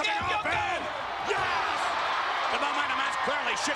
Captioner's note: spectators cheering